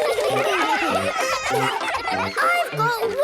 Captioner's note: excited laughter